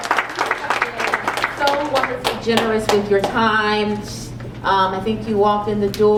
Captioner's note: applause